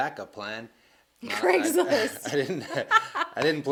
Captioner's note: laughing